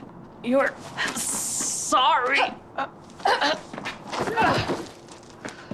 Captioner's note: Riley grunting